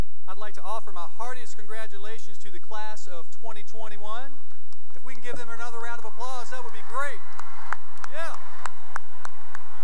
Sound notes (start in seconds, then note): 5.6 cheering and applause